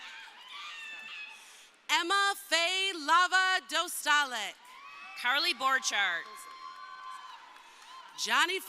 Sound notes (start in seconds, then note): 4.6 crowd cheering